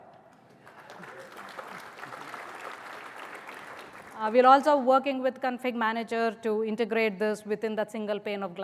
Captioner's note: applause